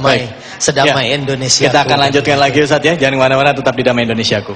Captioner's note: non-english speech